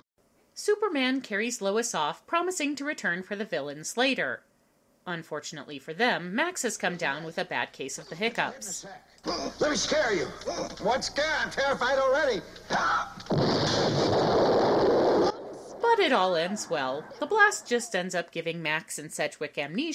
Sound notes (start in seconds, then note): 12.6 hiccups loudly; 13.2 explosion